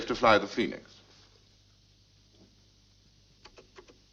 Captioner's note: person typing